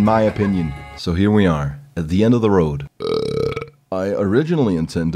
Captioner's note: burp